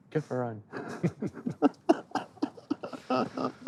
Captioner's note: both laugh